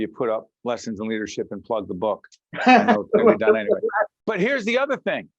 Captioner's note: laughing